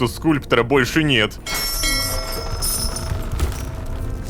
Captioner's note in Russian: Звук корабельного колокола